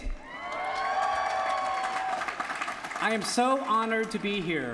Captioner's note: applause